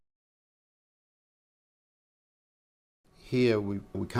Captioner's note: silence